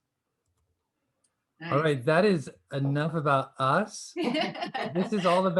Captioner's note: laughter